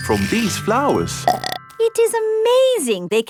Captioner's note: burps